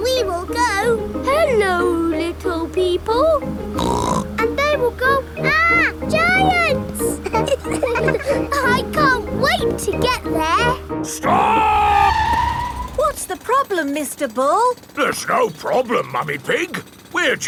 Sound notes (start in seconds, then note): 3.7 snorts; 7.2 all laughing; 11.3 tires screeching